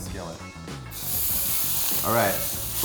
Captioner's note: sizzling